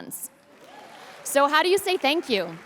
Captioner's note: audience cheers